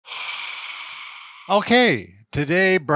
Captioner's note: exhaling